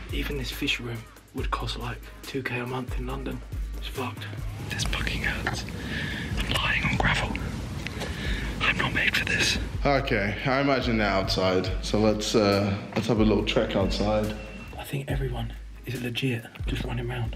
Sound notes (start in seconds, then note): none